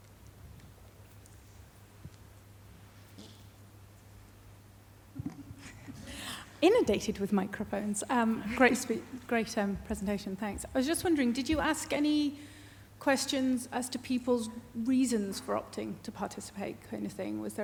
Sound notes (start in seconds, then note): 8.5 giggles